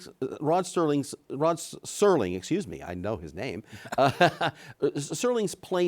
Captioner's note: laughs